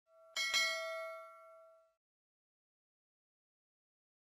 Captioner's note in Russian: колокольчик